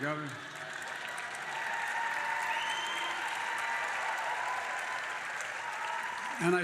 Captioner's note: applause